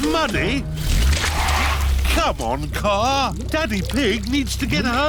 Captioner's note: wheels screech